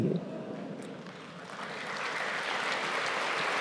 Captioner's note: applause